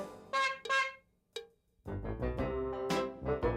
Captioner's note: honking